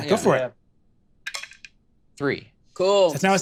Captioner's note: dice rattle